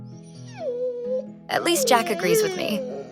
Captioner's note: Jack barking